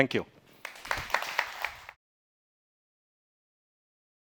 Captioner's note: audience clapping